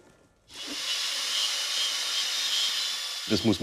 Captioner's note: machine whirring